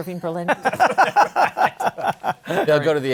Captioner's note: laughter